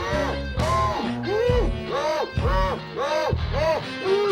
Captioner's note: muffled screaming